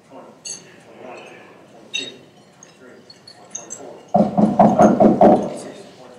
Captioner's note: knocking